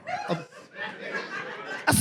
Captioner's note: audience laughs